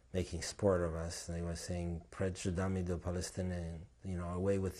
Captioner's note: non-english